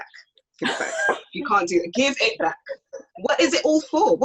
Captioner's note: laughs